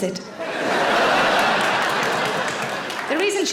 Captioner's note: audience laughing